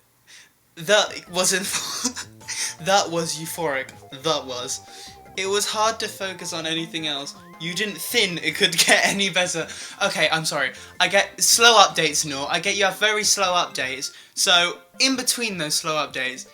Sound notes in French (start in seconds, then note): 1.5 rigole